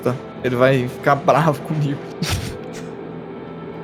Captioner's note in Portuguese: Risada